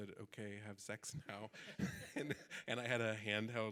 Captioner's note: audience laughing